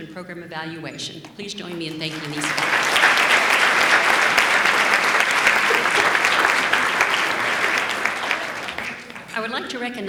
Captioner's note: applause